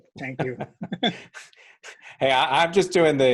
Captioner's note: both laughs